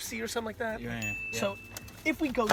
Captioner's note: bell dings